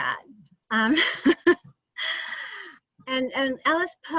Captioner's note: laughs